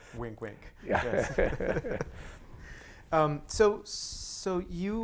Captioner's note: laughter